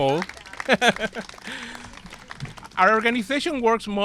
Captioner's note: chuckles